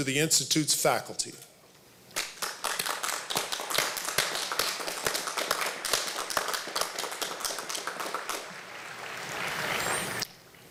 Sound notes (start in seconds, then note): 2.1 applause